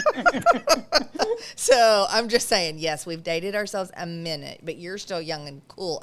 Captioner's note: laughs